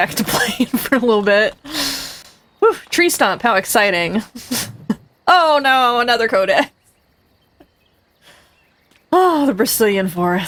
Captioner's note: laughs